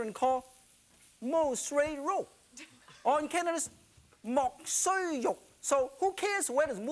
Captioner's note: speaking foreign language